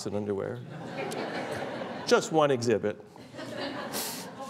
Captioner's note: laughter